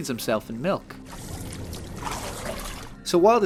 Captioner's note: splash splash